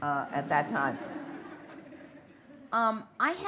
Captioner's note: laughter